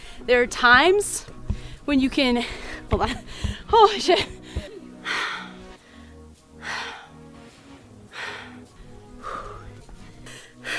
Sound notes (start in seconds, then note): 5.2 exhales sharply